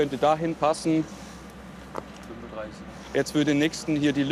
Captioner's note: quietly